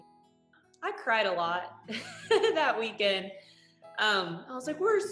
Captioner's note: laughs